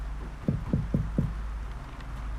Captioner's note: knocking